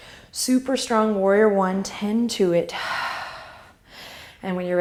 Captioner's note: exhale; inhale